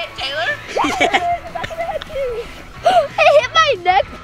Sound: laughing

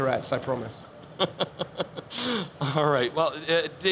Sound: laughs

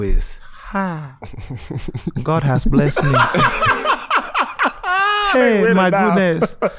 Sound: laughs

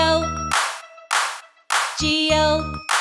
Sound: hands clap

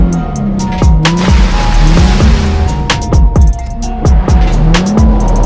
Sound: water splashing

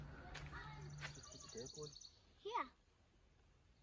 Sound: birds chirping

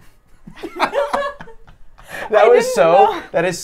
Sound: laughs

